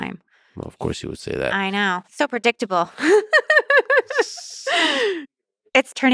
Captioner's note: laughs